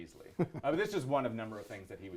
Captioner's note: laughs